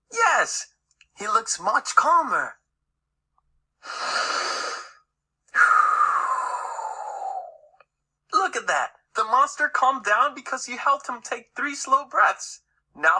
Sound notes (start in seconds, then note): 3.8 deep inhale and exhale